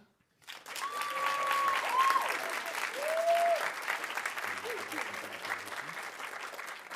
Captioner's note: audience applauding; audience cheering